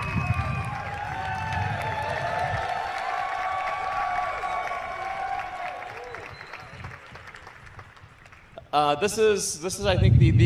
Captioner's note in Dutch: Applaus